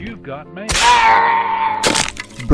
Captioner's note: Screams in Yoda